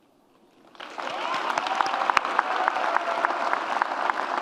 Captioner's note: audience cheers and claps